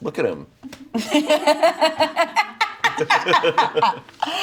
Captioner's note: laughs